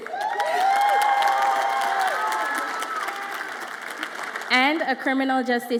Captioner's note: audience applauds and cheers